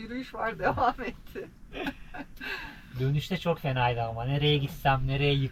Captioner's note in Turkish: kahkaha